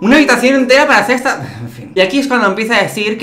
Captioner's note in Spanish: suspiro